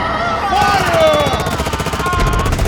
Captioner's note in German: schreiend; schüsse